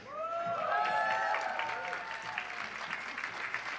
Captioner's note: applause